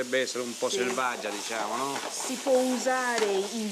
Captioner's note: speaking Italian